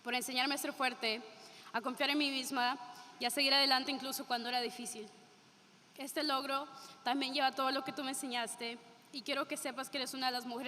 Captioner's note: speaking spanish